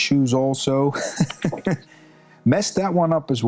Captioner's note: chuckles